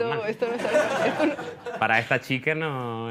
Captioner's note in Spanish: Risas